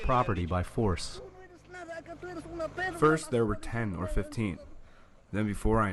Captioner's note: through translator